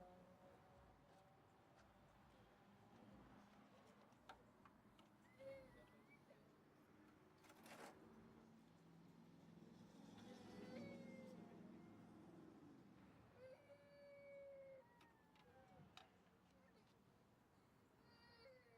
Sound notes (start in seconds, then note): 6.5 indistinct chatter; 14.5 baby crying